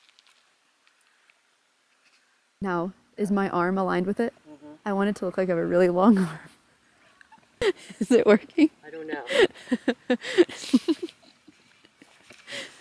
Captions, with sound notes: Now, is my arm aligned with it? I want it to look like a really long arm. Is it working? I don't know. (laughing)